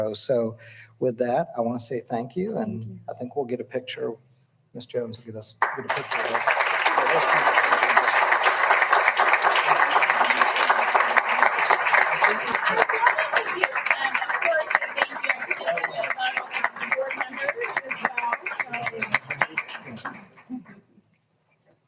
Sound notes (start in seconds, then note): 8.5 all applauding; 10.4 people chattering